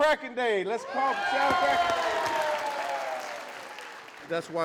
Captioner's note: cheers